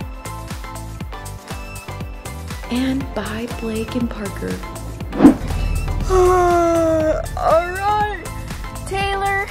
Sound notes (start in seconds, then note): 5.6 yawns